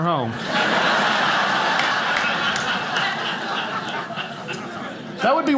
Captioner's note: audience laughing